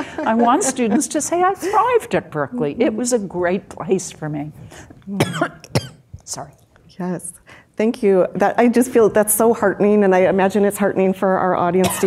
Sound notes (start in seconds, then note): 5.2 coughs